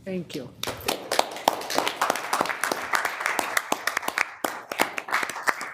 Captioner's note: audience applauding